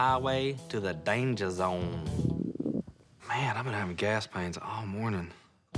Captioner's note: stomach gurgles